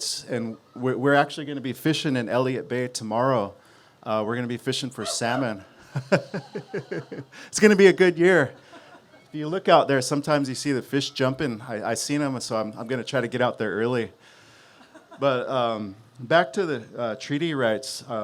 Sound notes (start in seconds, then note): 4.9 whooping; 4.9 laughs